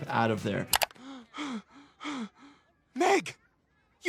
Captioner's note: Stewey gasps